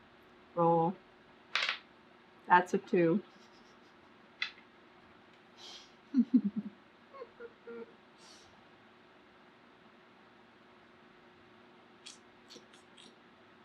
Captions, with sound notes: ROLL THAT'S A TWO [LAUGHS] [SUCKS TEETH]